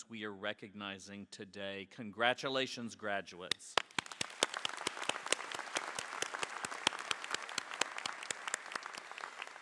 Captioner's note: applause